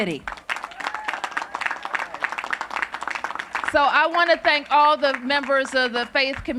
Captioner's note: cheers and applause